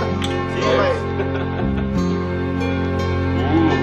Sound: laughs

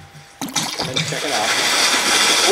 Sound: fish splashing

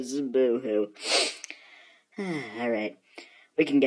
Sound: sniff

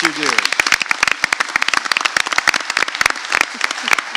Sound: audience clapping

